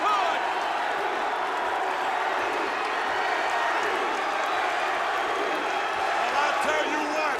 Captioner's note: crowd cheering